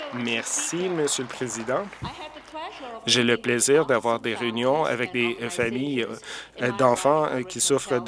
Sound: some Applause

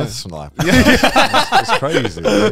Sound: all laughing

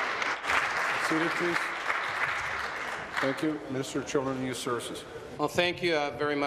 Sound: applause

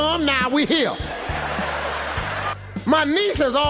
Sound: audience laughing

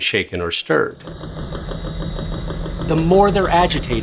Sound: theragun humming

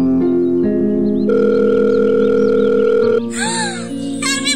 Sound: phone rings

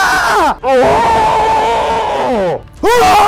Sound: screaming; slow-motion screaming; yelling

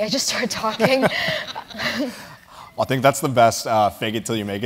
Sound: laugh

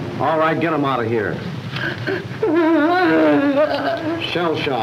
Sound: sobbing

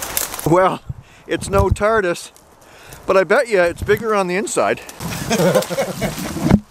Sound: laughter

